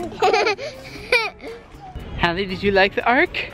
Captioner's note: laughing